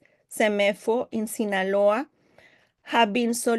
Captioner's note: speaking Spanish